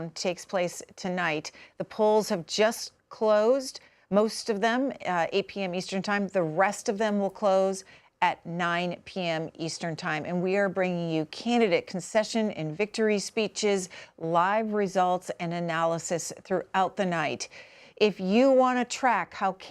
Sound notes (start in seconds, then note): none